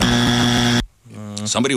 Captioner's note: buzzer